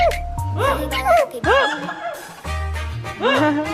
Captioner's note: can't hold it in +2